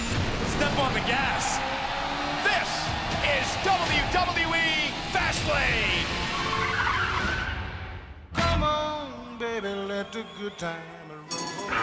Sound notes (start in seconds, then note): 7.3 engine revving